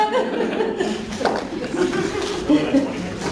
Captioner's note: laughing